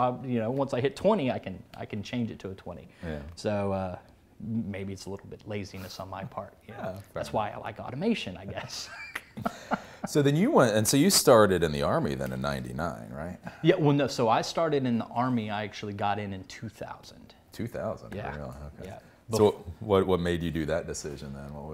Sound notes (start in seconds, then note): 8.4 laughs